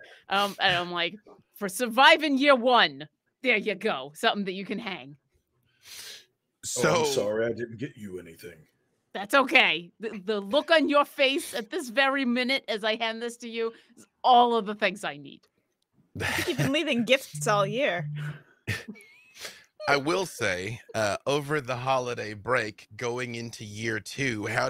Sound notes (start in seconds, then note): 0.5 laughing; 16.2 chuckles